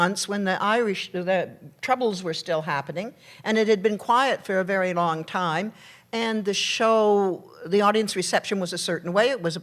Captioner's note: none